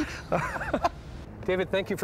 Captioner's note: laughing